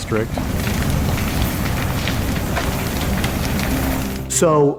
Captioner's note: fire flames crackling